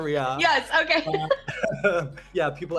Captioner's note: laughs